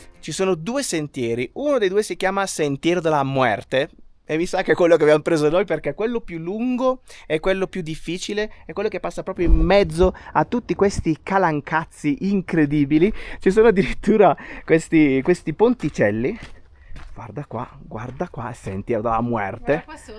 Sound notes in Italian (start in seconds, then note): 14.3 risate